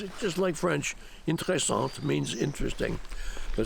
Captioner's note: french